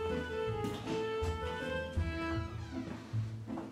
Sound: door opens and creeks

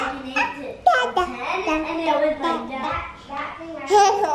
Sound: babbling

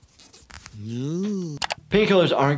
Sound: Mr. Burns gasps

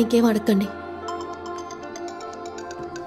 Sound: phone Ringing

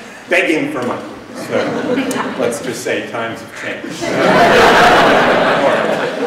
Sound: laughter; laughter

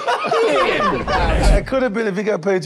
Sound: group laughs; wind whooshes

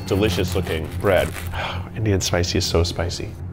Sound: sighs

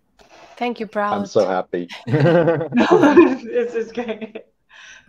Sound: laughs

